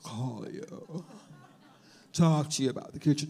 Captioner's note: audience laughs